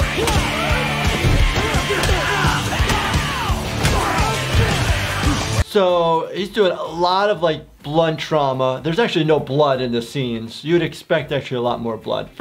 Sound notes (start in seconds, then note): 0.0 intense rock music; 0.0 loud punching